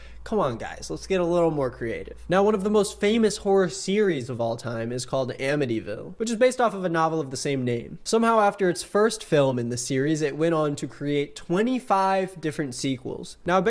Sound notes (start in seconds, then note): none